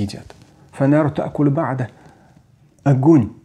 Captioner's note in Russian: Говорит на арабском